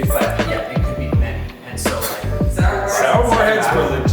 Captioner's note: faintly speaking